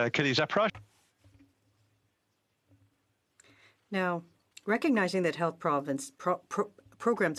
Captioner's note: speaking in French